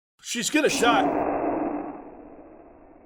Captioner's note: long and distorted shhh